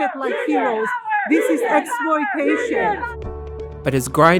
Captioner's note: protesters chanting